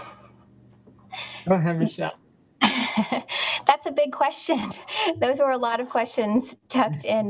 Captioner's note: laughs